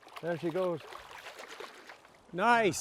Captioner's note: splashing